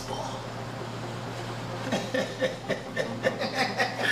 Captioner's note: laughing